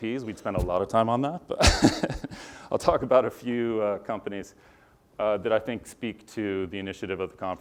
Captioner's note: laugh